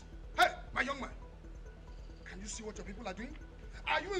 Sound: none

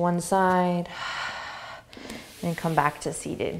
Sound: exhaling

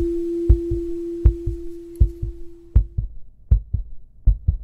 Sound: sound of heart

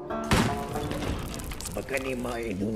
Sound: speaking foreign language; bomb exploding; light orchestral music

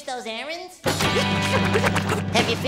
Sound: panting

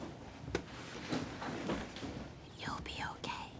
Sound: bag rustling

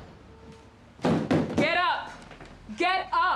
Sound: banging on wall

